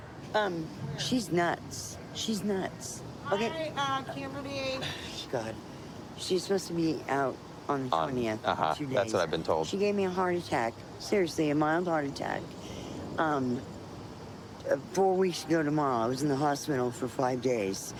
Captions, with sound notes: Um, she's nuts, she's nuts. -Hi, Kimberly! -(scoffs) God. -She's supposed to be out on the 20th, in two days. -Uh-huh, that's what I've been told. -She gave me a heart attack-- seriously-- a mild heart attack, um... four weeks ago, tomorrow. I was in the hospital for five days.